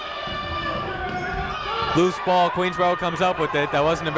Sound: shouting

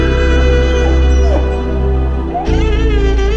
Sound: dog grunting

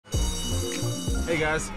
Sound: bell rings

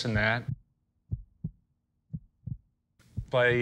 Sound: heart beat

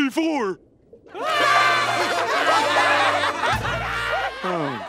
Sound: laughing

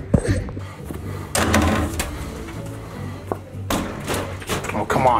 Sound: basketball clanging

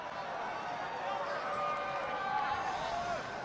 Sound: crowd cheers positively

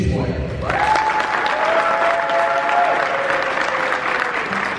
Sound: audience applause

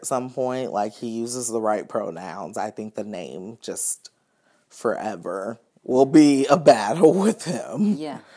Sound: laughs

